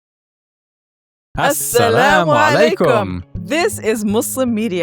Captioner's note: both speak in foreign language